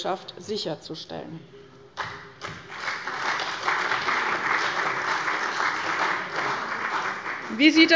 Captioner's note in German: Beifall bei der CDU und dem BÜNDNIS 90/DIE GRÜNEN